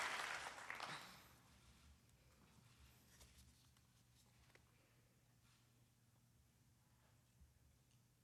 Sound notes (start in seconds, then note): 1.9 applause